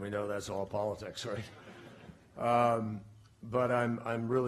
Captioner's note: laughter